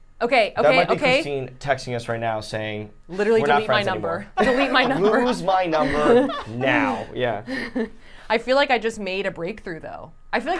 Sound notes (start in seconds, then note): 4.3 laughing